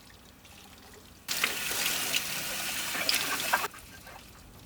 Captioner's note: water sloshing